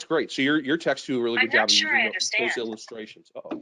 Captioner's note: speaking faintly